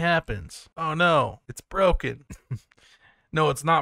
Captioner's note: laughs